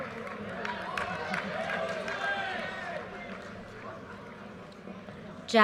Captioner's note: audience cheers and applause